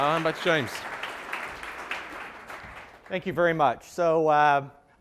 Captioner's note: applause